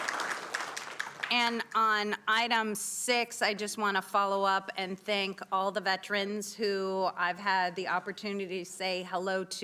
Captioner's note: applause